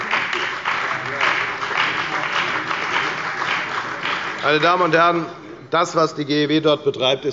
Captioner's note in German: Beifall bei der FDP und der CDU